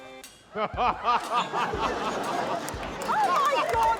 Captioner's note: laughter